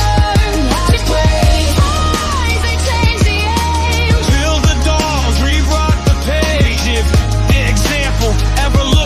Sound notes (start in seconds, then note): 4.1 aah